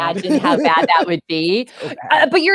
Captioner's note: chuckles